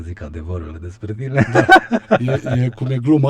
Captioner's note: laughter